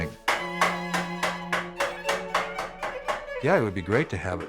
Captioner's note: hammering